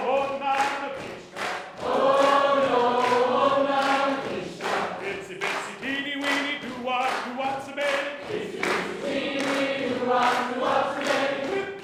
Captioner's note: call and response chanting between Audience